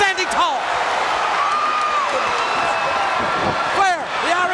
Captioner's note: audience cheering